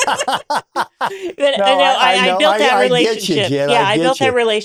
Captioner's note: both laughing